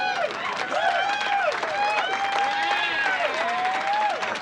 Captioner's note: audience applause